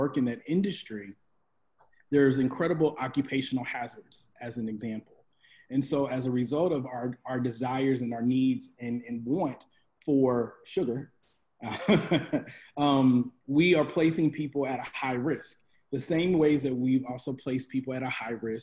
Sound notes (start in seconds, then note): 11.7 laughs